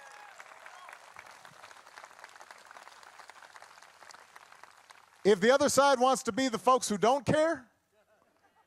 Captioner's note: cheering and applause